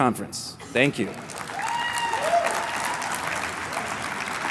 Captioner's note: cheers, applause